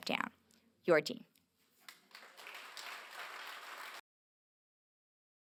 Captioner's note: applause